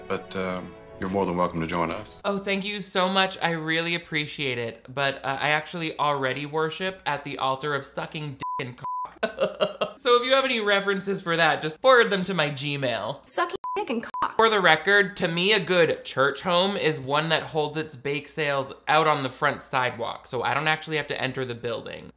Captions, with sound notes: but you're more than welcome to join us. - Oh, thank you so much; I really appreciate it. But I actually already worship at the altar of sucking d*** and c***. (laughs) So if you have any references for that, just forward them to my Gmail. "Sucking d*** and c***." For the record, to me, a good church home is one that holds its bake sales out on the front sidewalk, so I don't actually have to enter the building.